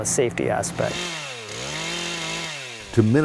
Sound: sound of chain saw

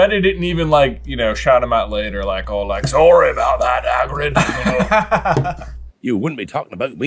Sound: laughter

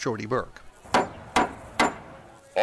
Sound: three wooden knocks

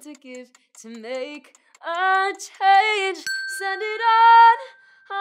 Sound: bell ringing

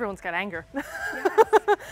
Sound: laughs

